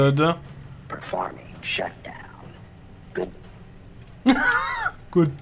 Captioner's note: laughs